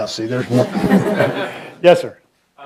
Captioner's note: laughter